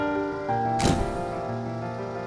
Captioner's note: light piano music; camera shutter clicking; light piano music